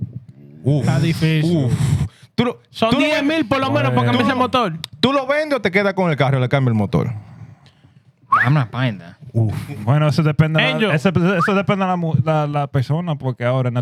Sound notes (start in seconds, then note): 2.7 speaking Spanish; 11.2 speaking Spanish